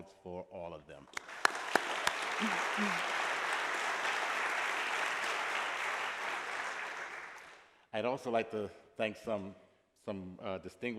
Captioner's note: applause